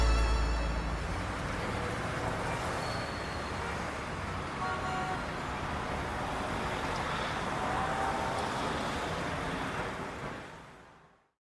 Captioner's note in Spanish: ambiente de tráfico